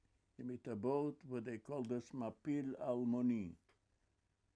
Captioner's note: hebrew